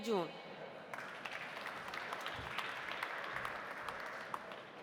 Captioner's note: audience applauding